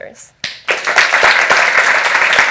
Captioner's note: applause